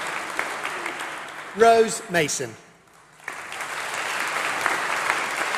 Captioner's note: applause